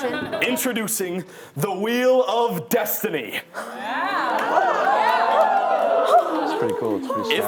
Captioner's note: audience clapping